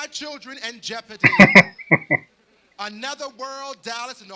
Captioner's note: laughing